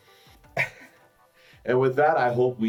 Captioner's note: sighs